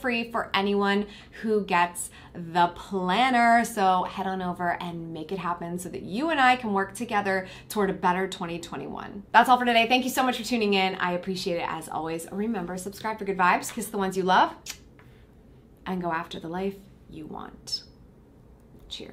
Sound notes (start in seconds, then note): 14.6 kisses